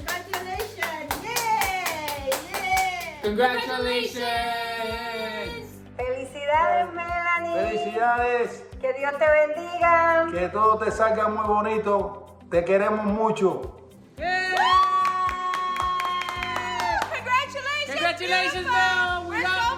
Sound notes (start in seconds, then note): 2.3 cheers; 6.2 speaking in foreign language; 14.2 cheering